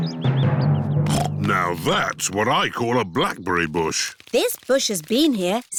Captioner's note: snorts